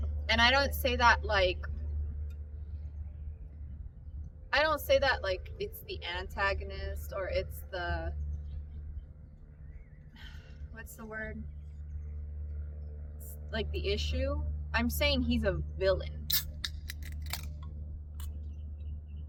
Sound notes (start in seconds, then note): 16.3 dr pepper can cracks